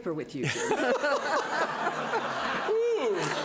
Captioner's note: laughing